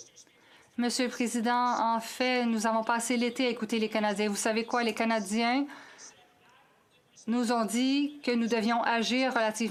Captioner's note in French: voix de l'interprète